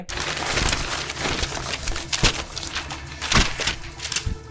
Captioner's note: paper rustling